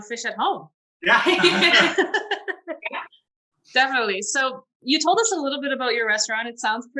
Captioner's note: laughter